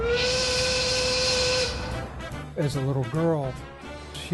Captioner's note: whistle blowing; cheerful music